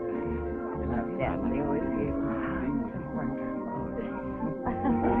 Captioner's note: Elizabeth muttering; Elizabeth laughing